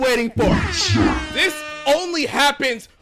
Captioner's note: robotic voice